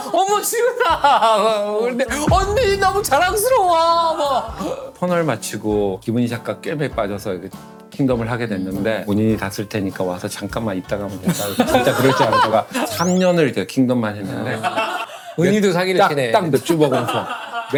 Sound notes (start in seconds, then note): 11.2 laughing